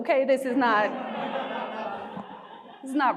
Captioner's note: audience laughing